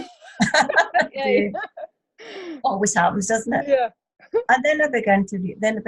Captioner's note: laughter